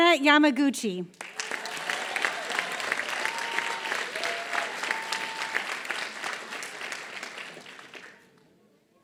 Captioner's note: applause